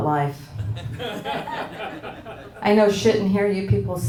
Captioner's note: audience laughing